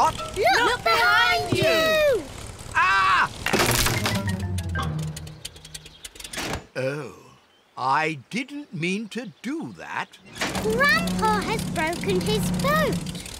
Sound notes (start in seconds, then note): 3.3 crunching